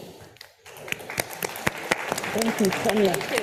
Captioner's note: audience applauding